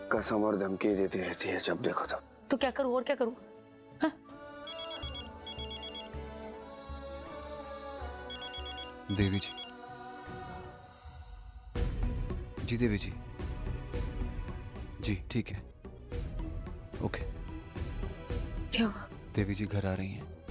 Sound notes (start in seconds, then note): 4.6 phone rings